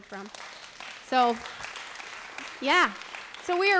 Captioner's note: applause